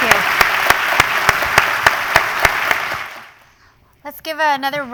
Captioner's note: applause